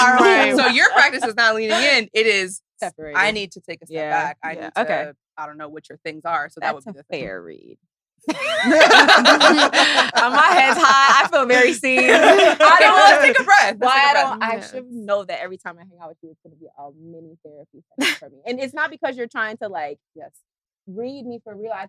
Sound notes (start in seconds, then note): 8.3 laughs; 11.9 all laughing